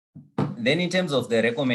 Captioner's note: object thudding